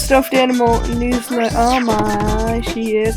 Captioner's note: slurred